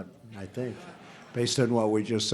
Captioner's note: laughter